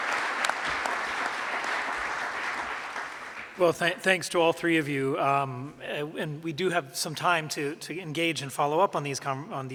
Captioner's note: applause